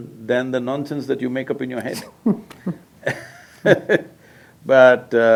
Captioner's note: both laugh